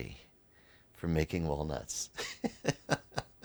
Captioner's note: laughs